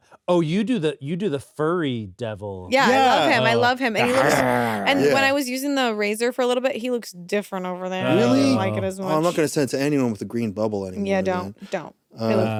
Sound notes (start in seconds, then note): 4.0 snarls